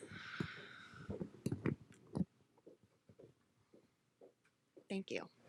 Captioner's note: shuffling and footsteps